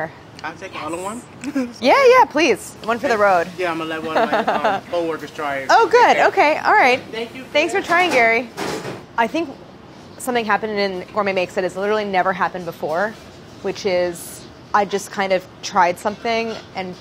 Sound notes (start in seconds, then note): 4.1 laughs